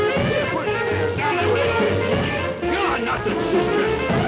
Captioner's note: screaming